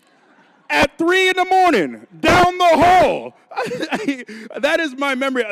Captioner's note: laughing